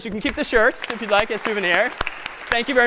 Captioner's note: applause